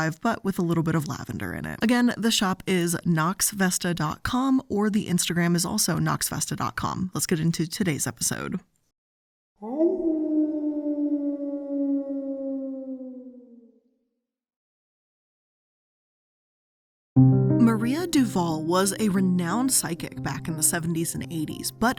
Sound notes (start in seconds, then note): 9.6 wolf howling; 17.2 gentle music